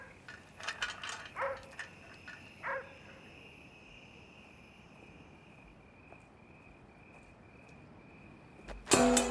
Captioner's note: dog barking; car door opens